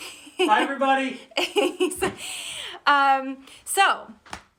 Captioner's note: laughs